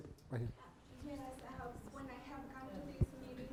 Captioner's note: off mic